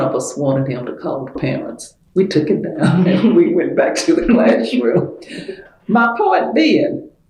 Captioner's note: laughter